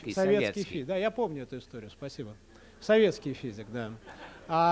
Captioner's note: non-english speech